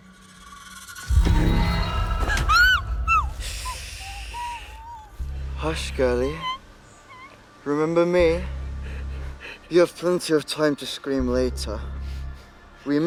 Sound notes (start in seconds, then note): 0.0 dramatic music; 2.2 Hilda screaming